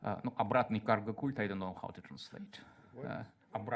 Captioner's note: speaks in Russian